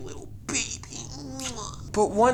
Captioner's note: mwah